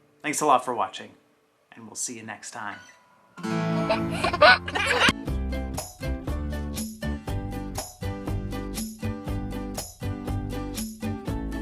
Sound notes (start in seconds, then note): 3.7 baby laughs; 6.2 gentle music